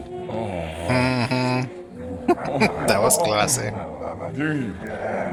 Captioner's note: chuckling